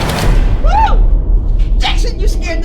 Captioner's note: yelling